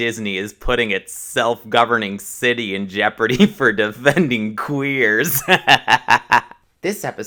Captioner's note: chuckle